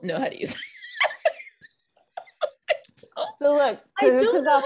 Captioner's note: laughing